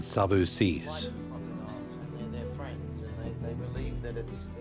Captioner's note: indistinct chatter